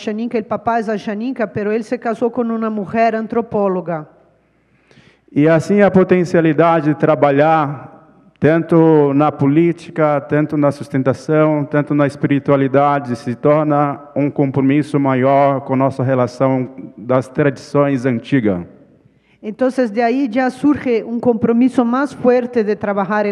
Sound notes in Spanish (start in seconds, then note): 5.8 ponente habla en portugués